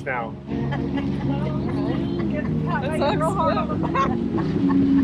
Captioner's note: everyone laughing